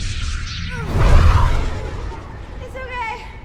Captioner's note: grunts